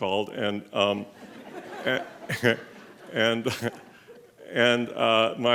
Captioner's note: laughing